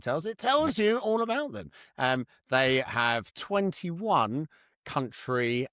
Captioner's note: laughs